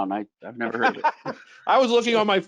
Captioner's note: laughing